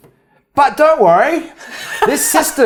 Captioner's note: laughs